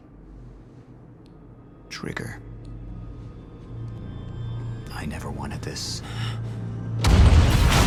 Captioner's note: over comms